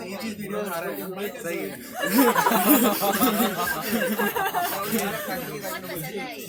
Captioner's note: laughs